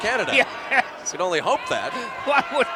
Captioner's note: laugh